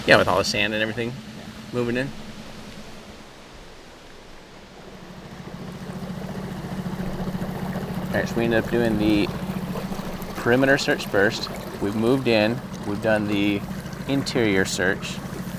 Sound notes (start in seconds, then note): 2.4 boat engine revving; 2.4 soft water splashing